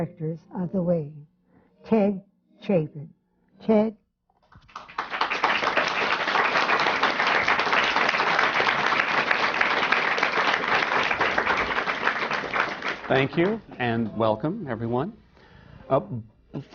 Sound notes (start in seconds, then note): 4.5 applause